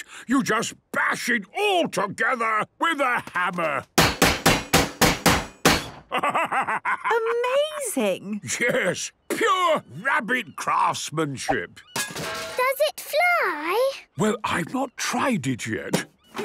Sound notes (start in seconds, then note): 4.0 metallic bashing; 12.0 distant clanging